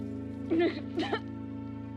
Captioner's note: crying, coughing